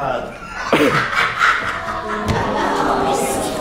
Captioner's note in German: er lacht